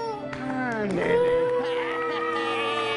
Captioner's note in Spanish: llora